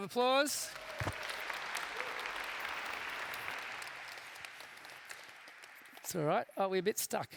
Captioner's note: background chatter